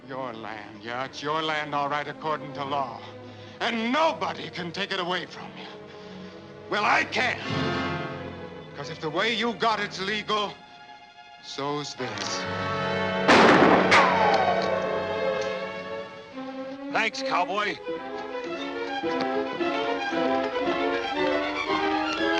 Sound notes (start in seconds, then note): 13.2 gunshot; 17.9 menacing music